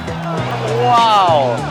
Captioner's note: crowd roars